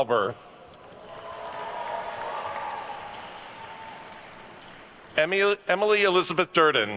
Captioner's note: attendees cheering and applauding